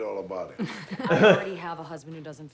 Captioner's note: both laugh